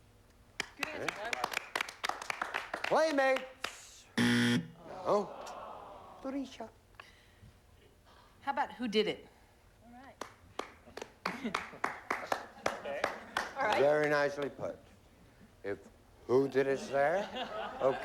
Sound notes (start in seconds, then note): 4.2 buzzer